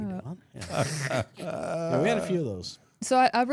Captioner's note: people laughing